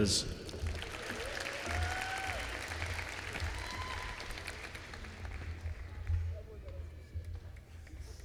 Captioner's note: applause